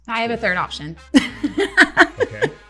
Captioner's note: laughter